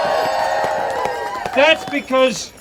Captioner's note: audience cheering